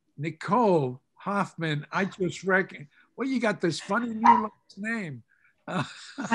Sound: laughs

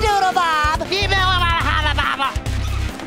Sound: talking gibberish

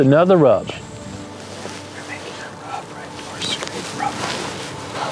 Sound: whispering

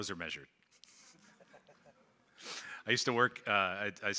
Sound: crowd laughing

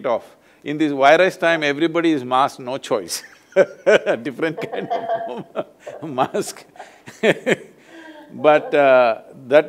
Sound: both laugh

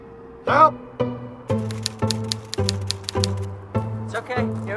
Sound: typewriter clanks

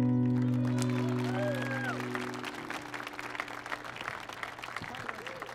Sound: audience cheering and applauding

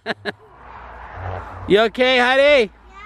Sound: laughing

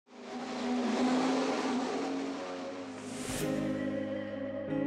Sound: engine revving

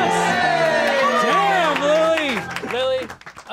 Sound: cheering, clapping x8

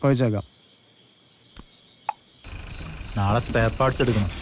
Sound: night Ambient Sound

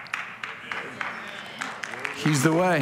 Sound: congregation applauding

